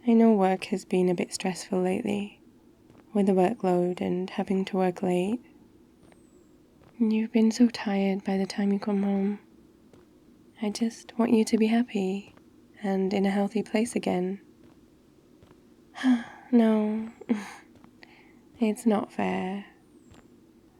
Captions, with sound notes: I know work has been a bit stressful lately with the workload and having to work late you've been so tired by the time you come home I just want you to be happy... and in a healthy place again *sighs* no... it's not fair